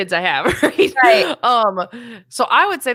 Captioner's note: laughs